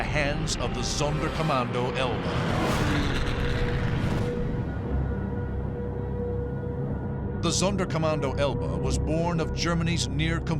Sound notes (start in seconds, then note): 3.8 siren wailing